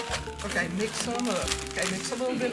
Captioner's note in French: bruit de bonbons